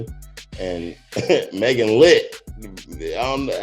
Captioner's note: chuckles